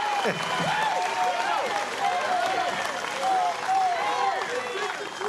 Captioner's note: cheers and applause